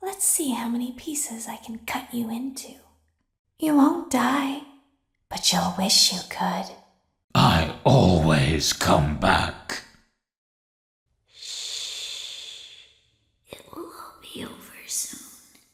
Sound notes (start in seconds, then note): 7.9 deep, Angry Voice; 11.7 weak, young girl's voice